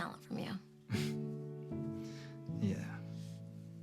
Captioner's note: Noah laughs